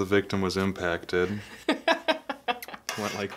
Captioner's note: laughing